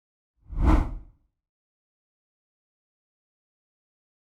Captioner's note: rough whooshing